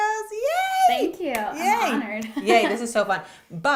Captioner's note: laughs